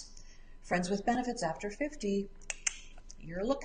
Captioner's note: clicks tongue